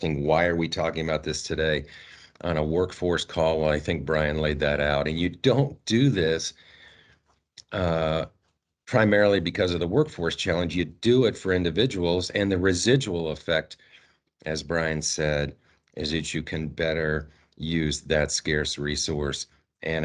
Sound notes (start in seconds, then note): none